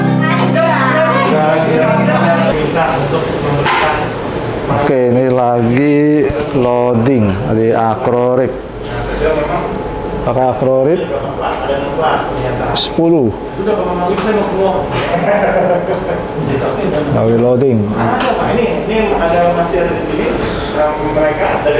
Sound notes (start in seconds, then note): 2.4 distant chattering; 10.2 distant chattering; 14.8 laughing; 15.4 distant chattering